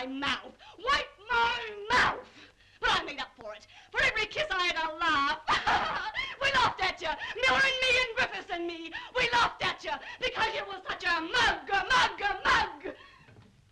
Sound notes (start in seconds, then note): 5.6 laughs manically